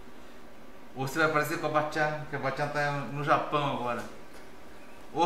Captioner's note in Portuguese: em japonês